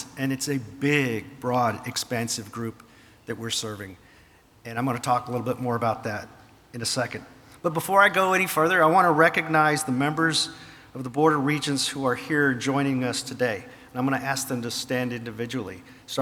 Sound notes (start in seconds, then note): none